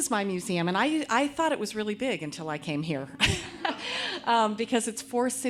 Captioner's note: laughs